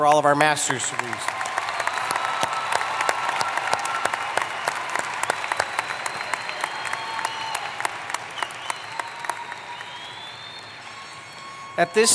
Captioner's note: applause